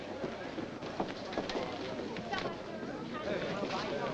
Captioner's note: diners chattering